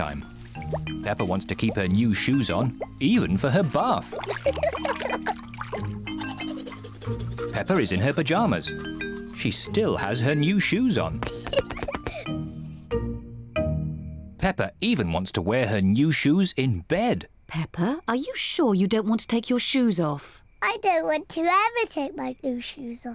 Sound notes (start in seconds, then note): 4.3 giggles; 11.2 giggles